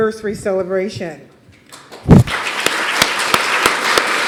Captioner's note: applause